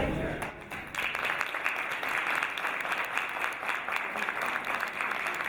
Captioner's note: audience applauding